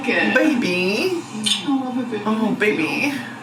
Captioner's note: lips smacking